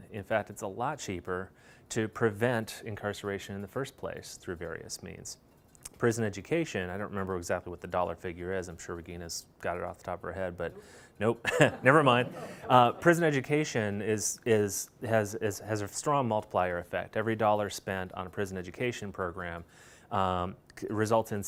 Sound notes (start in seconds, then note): 11.4 laughter